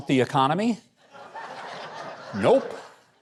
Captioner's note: audience laughs